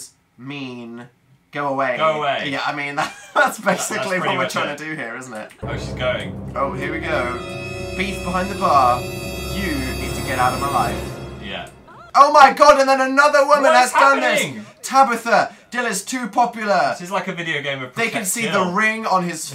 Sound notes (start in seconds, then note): 2.4 laughs; 12.8 triggered interjections